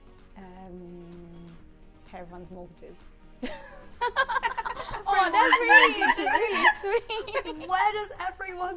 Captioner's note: laughs